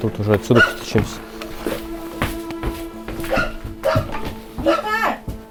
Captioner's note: dog barking